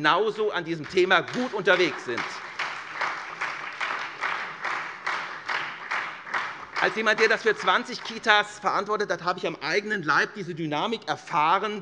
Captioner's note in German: Beifall SPD und Freie Demokraten